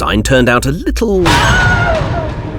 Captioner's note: warden sound effect